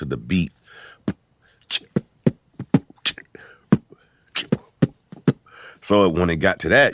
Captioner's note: beat boxing